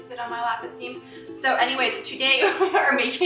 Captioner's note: laughs